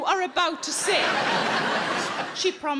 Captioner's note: audience laughing